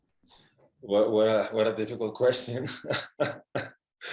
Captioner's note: laughing